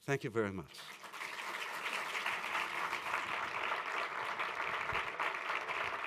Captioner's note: applause